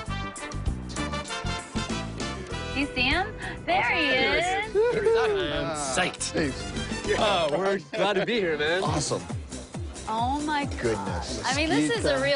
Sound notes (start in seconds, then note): 4.7 laughter